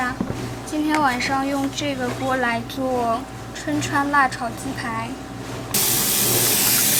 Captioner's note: Korean